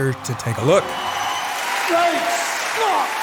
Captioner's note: audience applauds